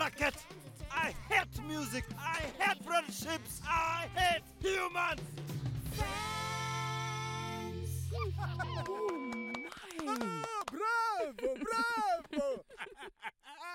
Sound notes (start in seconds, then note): 8.2 cheering; 12.4 laughing